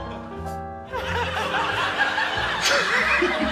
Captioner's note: laughs; chuckles